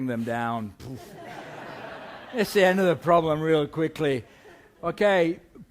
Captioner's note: laughter